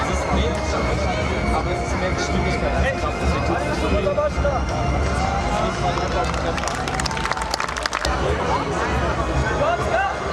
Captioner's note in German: Applaus